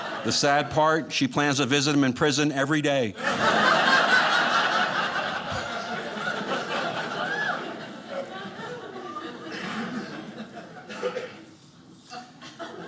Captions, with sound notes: The sad part, she plans to visit him in prison every day. (audience laughing)